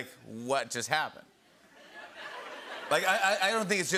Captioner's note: laughter